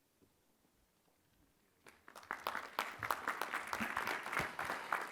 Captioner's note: applause